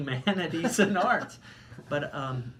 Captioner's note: laughing